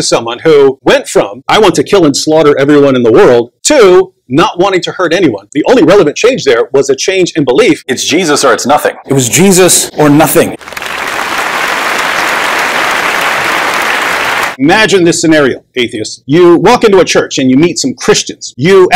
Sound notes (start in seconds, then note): 13.6 applause